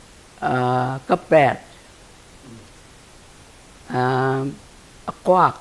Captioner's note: speaking in foreign language